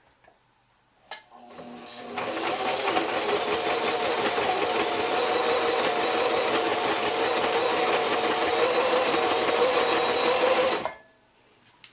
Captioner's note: sewing machine noise